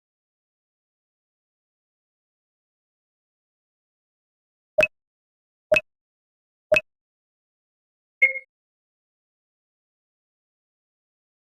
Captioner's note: video game sounds